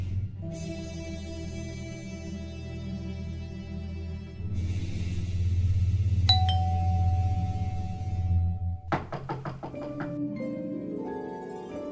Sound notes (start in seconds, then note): 6.3 ding dong; 8.8 knock knock knock